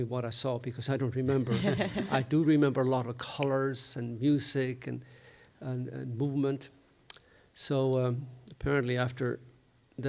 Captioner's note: chuckles